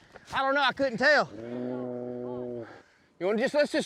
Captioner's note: mooing